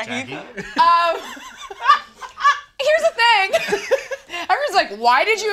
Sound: all laughing

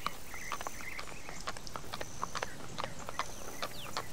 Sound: birds chirping; hooves clopping

